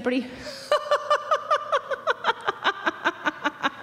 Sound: laughing

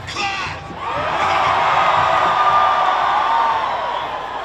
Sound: crowd cheers

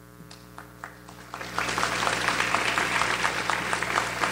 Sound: audience applauds

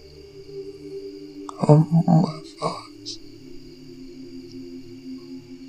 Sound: distorted deep voice

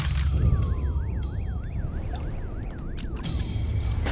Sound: sirens blaring in the distance

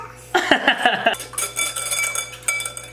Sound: laughs

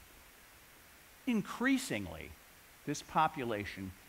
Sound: none

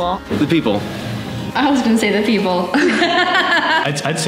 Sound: laughter

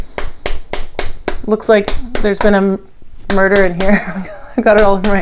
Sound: chuckles

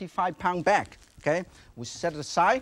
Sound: bag crinkling

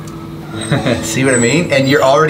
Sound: laughs

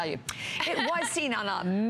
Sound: laughter

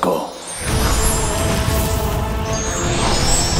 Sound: crackling

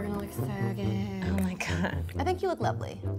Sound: chuckles

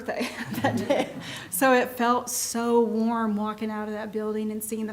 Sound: laughs

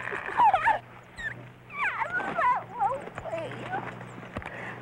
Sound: woman exclaiming

